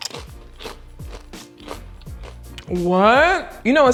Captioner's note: chips crunching